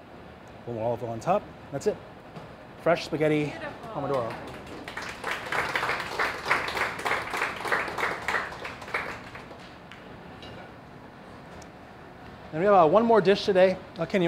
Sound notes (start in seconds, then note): 9.2 applause